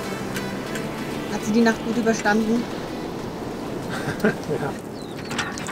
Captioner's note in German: lacht